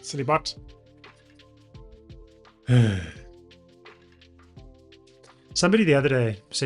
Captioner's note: sighs